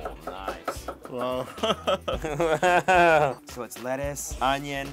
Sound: laughs

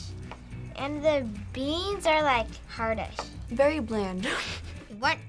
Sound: chuckles

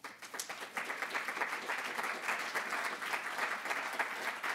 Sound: applause

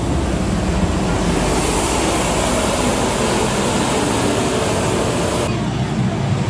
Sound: street cleaner truck drives

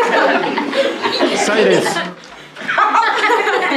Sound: laughter

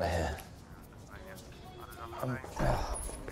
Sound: Tom groaning

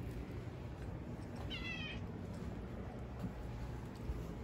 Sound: meows

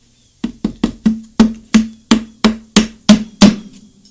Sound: hammer hitting

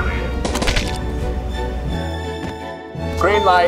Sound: paint splattering

